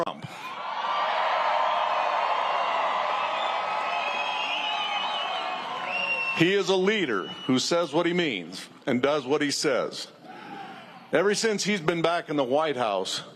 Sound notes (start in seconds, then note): 0.0 cheers and applause; 7.2 cheers and applause